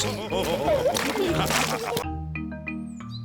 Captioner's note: all laugh